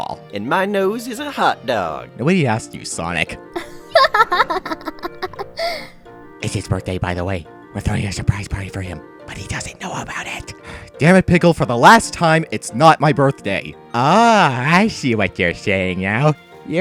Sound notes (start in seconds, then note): 3.6 laughter; 6.4 whispering